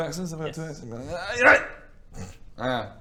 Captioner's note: hrrrrghh; aahyygh!